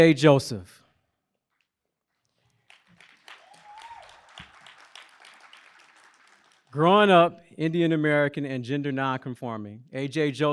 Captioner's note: applause